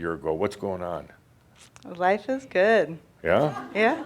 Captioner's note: a few chuckles